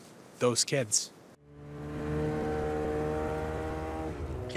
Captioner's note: engine roaring